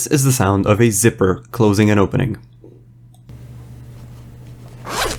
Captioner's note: zipper closing and opening